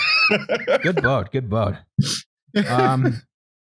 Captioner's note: laughs